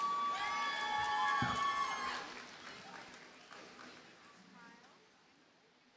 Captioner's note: audience cheers and applauds